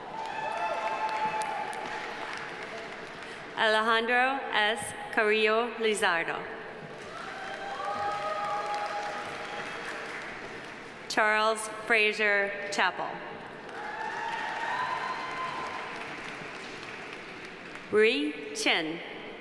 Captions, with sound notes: (audience applauding) (audience cheering) Alejandro S. Carrillo Lizardo. (audience applauding) (audience cheering) Charles Frazier Chappell. (audience applauding) (audience cheering) Rui Chen.